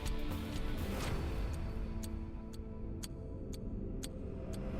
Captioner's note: clock Ticking